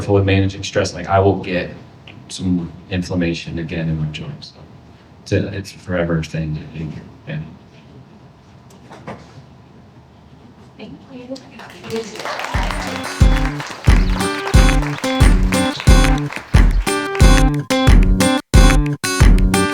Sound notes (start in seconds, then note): 11.5 audience applauding